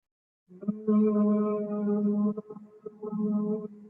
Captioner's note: humming